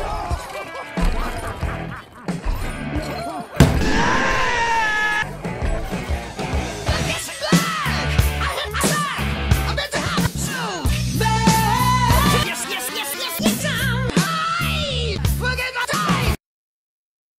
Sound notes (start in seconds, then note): 3.6 slam; 4.3 screams in vegeta